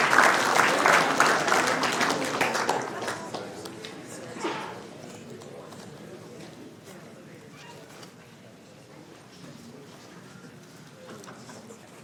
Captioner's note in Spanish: Aplausos